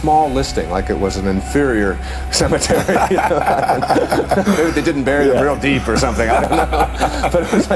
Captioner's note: laughter